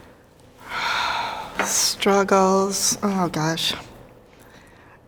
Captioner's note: sighs